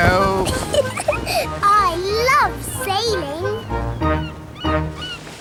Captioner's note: giggles